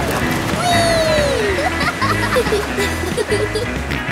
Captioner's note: laughing